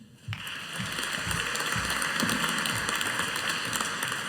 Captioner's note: audience applauding